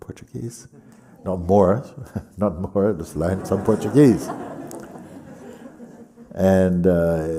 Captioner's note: laughter